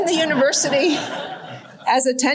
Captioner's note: laughter